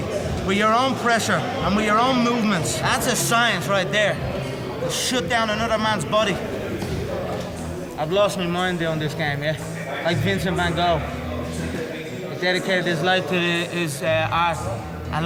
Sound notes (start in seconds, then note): none